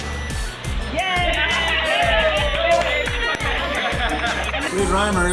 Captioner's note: everyone cheers and claps